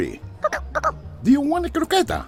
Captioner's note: Vivo chatters; Vivo chirps